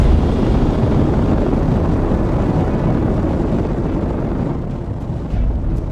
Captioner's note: pop, then rocket engine roaring; dramatic music